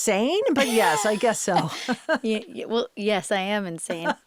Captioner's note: laughs